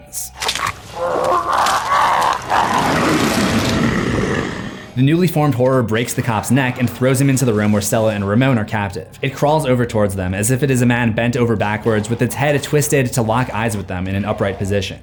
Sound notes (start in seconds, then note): 0.4 high pitched grunting; 3.3 growling